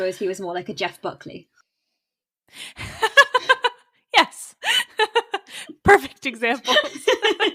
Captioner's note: laughs